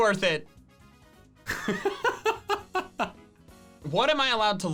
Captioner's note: laughing